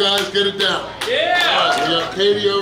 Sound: cheering and clapping

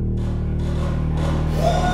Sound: distant sounds of a shaking bed

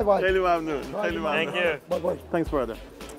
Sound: speaking foreign language

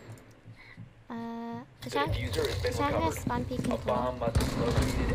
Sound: speaking in team voice

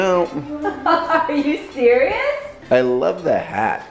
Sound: laughs

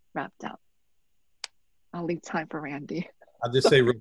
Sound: chuckle

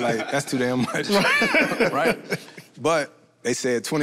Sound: group laughs

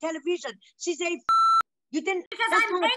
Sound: beep

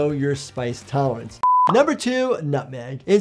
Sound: video beeping

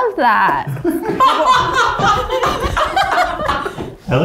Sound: all laughing

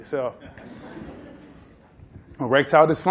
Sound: laughter

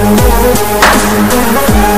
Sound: clap

